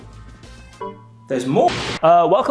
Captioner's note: computer chimes